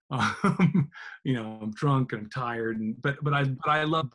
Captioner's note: laughs